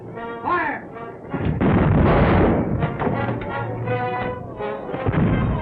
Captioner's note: cannons booming